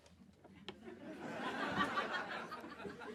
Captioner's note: audience laughing